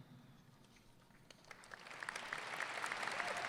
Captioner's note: applause